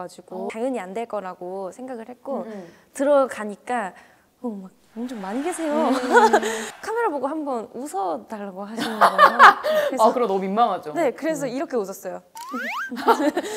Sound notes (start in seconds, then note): 4.8 buzzing